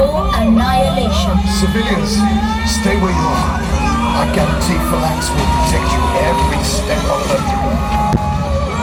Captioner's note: explosion